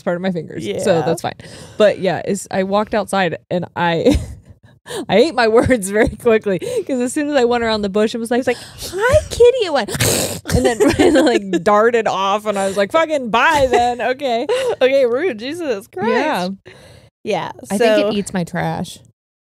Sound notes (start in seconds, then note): 4.3 laughing; 8.4 hisses